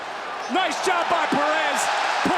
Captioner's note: audience cheers